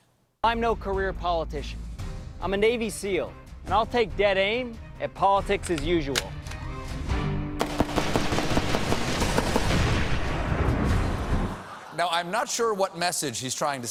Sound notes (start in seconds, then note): 4.6 barrel explodes; 4.6 gunfire